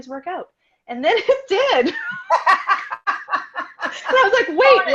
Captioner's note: laughs